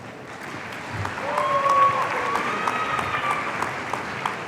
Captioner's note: audience cheering